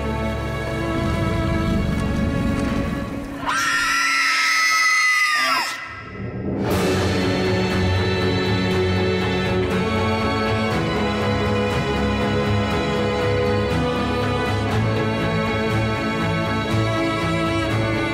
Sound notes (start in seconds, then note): 3.4 shrill scream